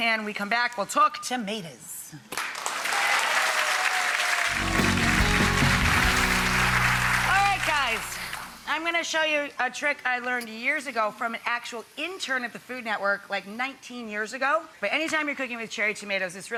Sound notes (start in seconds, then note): 2.4 audience applauds; 4.4 upbeat music